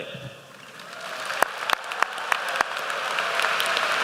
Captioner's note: applause